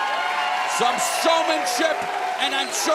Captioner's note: cheers and applause